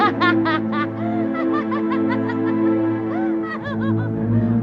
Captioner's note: laughing